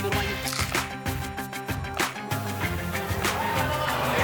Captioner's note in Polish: Aplauz